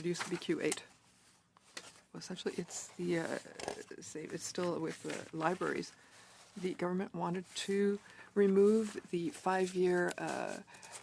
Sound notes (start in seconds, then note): 1.3 speaking French